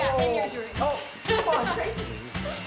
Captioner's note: laughs